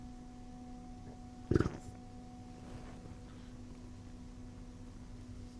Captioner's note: short low rumbling